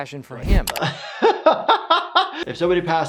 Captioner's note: laughing